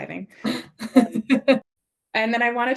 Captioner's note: laughing